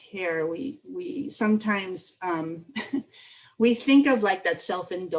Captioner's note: laughter